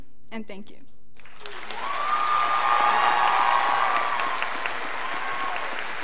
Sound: scholars applauding

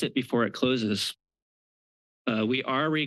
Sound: pause

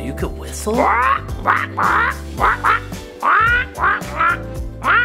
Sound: bird squawking

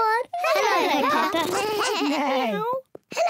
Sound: oinks; all make animal sounds

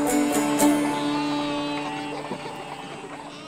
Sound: baaing

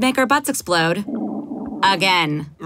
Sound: grumble guts

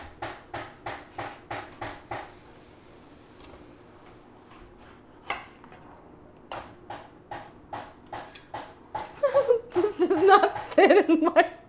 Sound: laughter

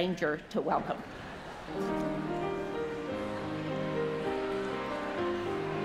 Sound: congregation chatters; gentle piano music

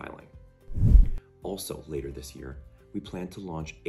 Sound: swoosh

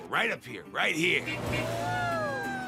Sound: horn honking; cheering

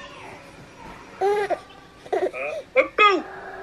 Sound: gurgles

